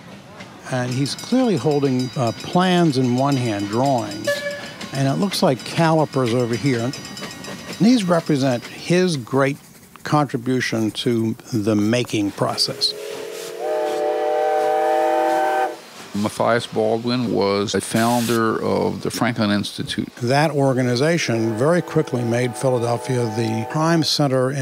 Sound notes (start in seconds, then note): 12.6 train whistle